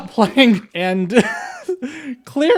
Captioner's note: laugh